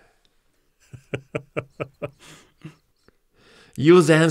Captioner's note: laughs